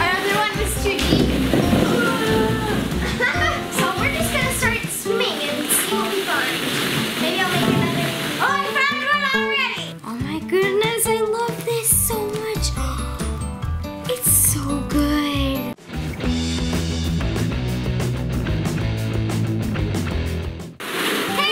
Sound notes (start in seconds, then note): 2.2 laughs; 13.5 gasps; 16.6 rock 'n roll music